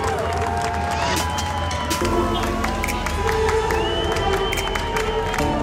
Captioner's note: sound of cheering